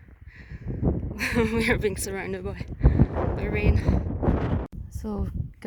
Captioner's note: laughs